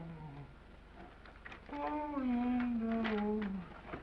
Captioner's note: humming